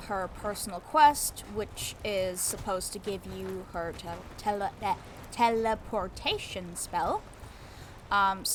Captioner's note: struggles to pronounce the word "teleportation"